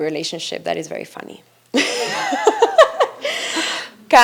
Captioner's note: laughs